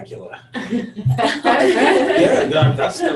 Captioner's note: everyone laughs